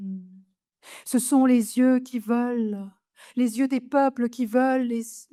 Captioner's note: continues speaking French